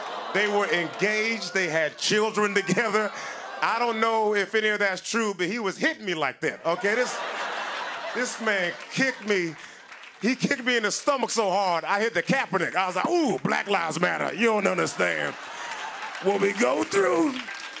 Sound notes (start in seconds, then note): 6.7 laughing; 17.6 applause